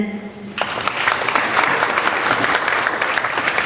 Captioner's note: applauding